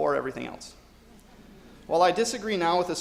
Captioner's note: audience laughs